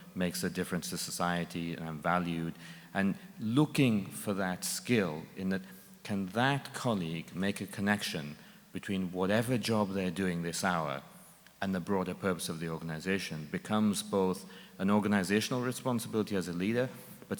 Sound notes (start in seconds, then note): none